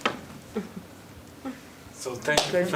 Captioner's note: laughter